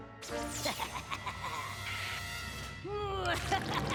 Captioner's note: laughs maniacally; laughs maniacally